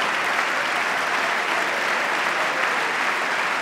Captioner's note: applause